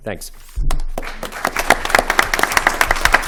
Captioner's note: applause